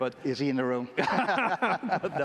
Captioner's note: laughter